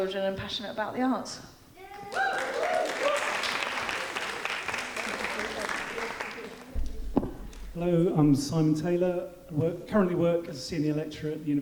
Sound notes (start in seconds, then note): 1.9 audience whooping; 2.0 audience applauding